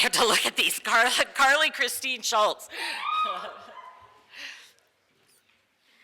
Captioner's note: small group cheers